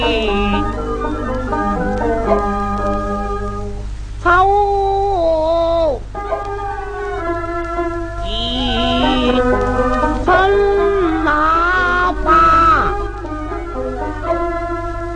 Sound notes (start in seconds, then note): 4.0 小生唱中板; 11.7 peep